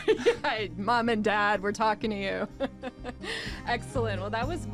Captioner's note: laughing